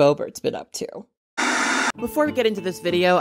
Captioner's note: static